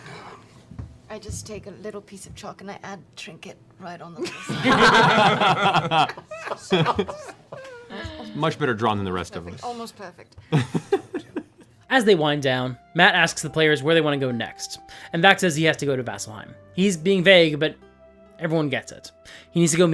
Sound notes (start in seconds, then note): 4.2 laughter